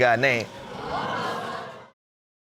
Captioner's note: crown groaning